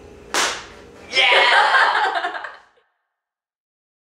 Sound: both laugh

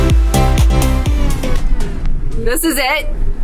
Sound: record distorting

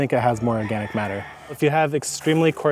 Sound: rooster crowing

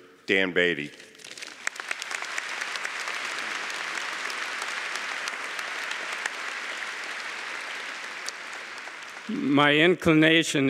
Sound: applause

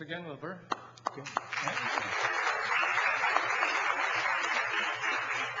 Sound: audience clapping

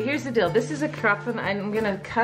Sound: speaking in foreign language

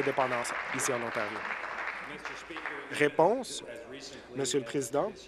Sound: applause

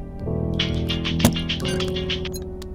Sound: phone Rings

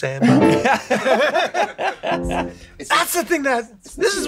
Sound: Glen laughs

